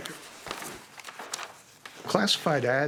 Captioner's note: pages rustling